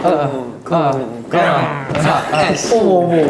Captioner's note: growl; clash